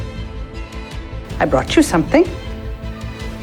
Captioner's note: voiceover